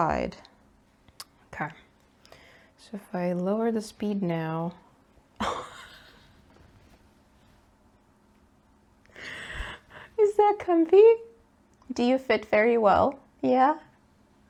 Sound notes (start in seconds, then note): 5.4 cracks up laughing